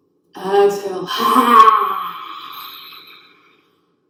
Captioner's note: yelling sound